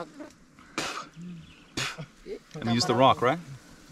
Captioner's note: blows his lips